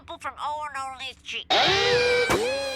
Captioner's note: Owen screams